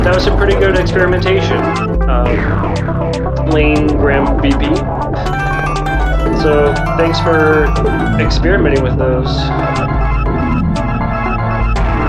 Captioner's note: mouth music